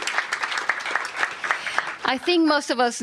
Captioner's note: applause